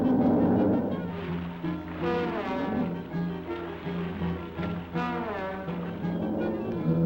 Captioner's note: dramatic music; lizard bellowing; water splashing; lizard bellowing